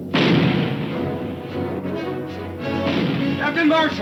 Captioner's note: cannon firing; adventurous music